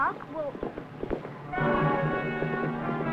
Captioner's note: hoofbeats approaching; dramatic music